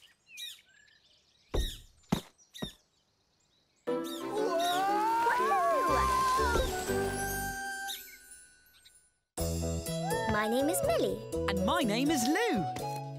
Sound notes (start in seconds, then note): 0.0 bird chirping; 1.9 bird squawks; 3.9 lively music playing; 7.8 bird chirps; 9.4 upbeat music playing